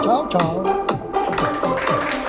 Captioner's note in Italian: Applauso